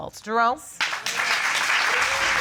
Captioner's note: audience applauding